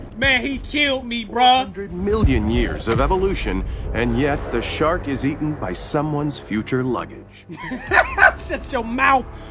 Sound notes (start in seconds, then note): 0.0 voiceover; 1.7 voiceover; 7.5 laughs